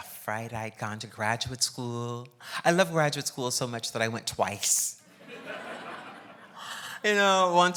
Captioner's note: laughs